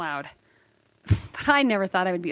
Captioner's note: laughter